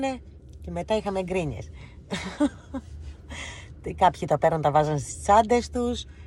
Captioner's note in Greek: γέλια